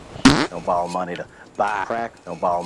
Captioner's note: farting throughout